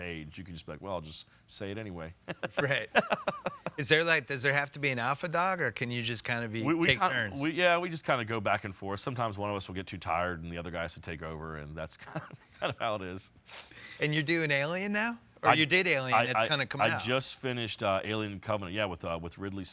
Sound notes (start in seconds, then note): 2.3 laughs; 12.0 chuckles